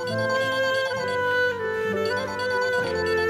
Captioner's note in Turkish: Telefon çalıyor